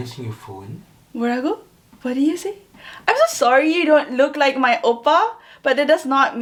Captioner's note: speaks korean